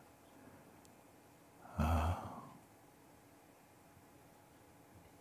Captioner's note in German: Stille